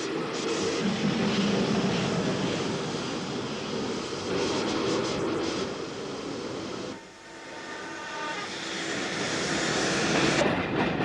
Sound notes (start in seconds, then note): 5.2 train passes